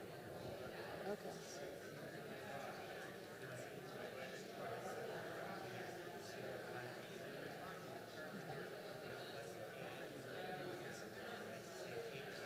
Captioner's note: indistinct chatter